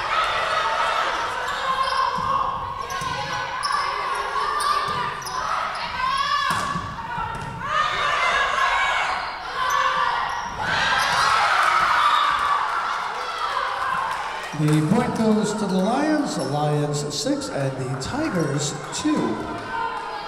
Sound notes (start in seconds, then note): 12.0 whistle blowing; 13.5 Lions cheering